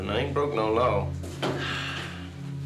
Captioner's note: sigh